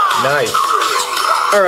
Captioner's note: voiceover